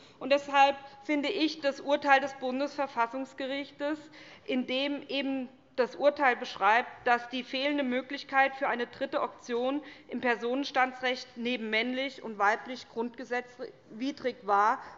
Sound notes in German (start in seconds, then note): none